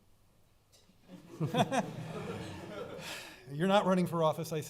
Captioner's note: laughing